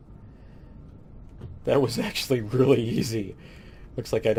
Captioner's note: laughing